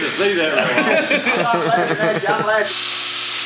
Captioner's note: laughs loudly